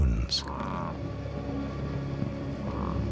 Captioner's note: grunting